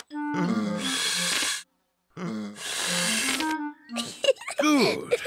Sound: blowing deeply; giggles

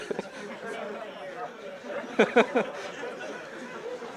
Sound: laughs; audience laughing

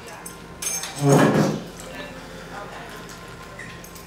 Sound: indistinct restaurant chatter

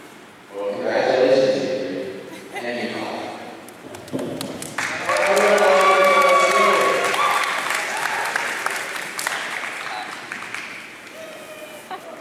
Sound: applause

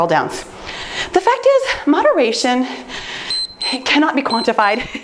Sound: timer beeps

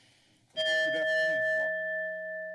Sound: bell ring continues; bell rings

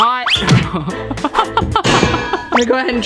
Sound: laughing

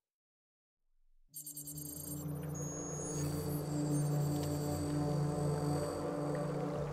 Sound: electronic beeping, trilling

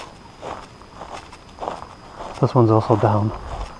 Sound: footsteps thudding

